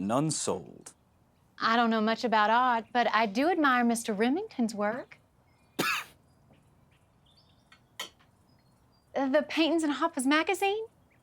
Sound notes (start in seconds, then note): 5.8 charlie coughs